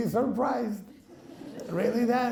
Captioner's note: laughing